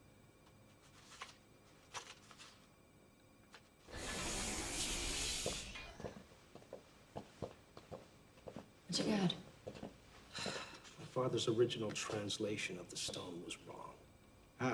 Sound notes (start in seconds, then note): 3.9 sliding door whooshing